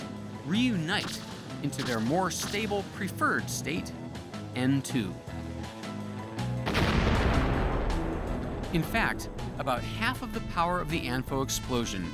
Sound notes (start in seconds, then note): 6.6 loud explosion